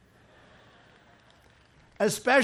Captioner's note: laughter